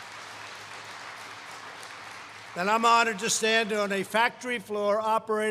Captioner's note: applause